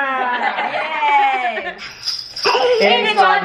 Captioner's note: all laughing